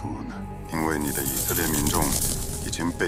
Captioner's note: horse gallops and whoosh